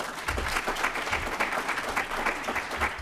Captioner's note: applause